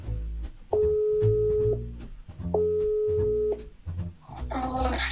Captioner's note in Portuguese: som de celular chamando